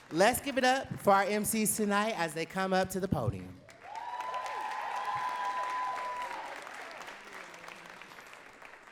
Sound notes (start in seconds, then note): 0.0 clapping; 3.7 audience cheering and clapping